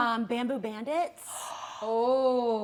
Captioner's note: gasp